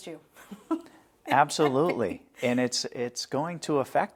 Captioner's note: laughter